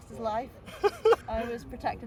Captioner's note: laughs